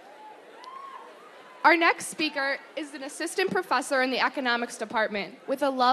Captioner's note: applause